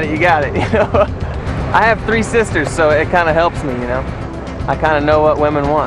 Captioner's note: laughs